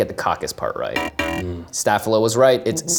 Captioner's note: buzzer resounding